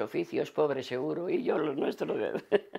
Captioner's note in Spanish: Ríe